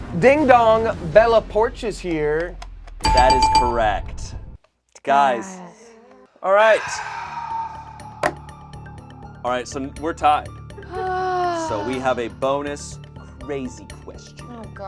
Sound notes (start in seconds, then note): 3.1 buzzer rings; 10.8 sighs